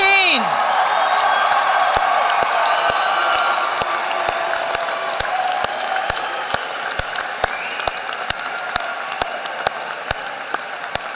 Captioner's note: applause